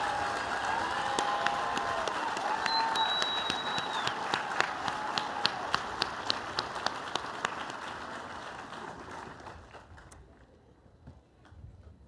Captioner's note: aplausos